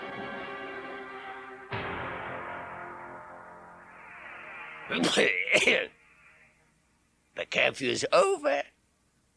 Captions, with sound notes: *Gatekeeper coughs a bit* The curfew is over!